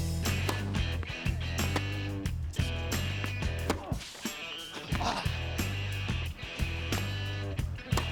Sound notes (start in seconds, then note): 4.7 grunts